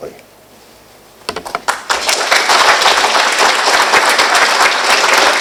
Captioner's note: applause